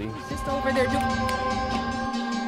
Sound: snapping; bright dramatic music

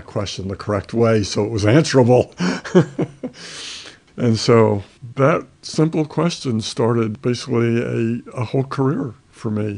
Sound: laughs

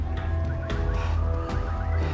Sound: panting

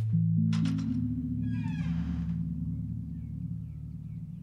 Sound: door clicks and creaks; birds chirping

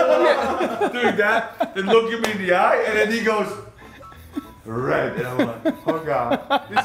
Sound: laugh

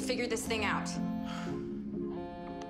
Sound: cell phone vibrates

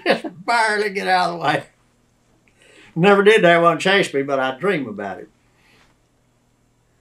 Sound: laughs

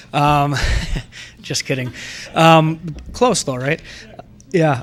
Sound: laughs

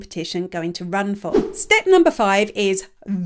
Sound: image whooshes

